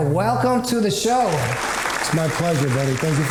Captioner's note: applause